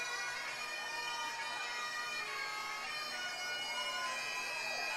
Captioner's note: crowd cheering